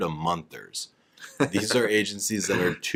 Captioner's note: chuckling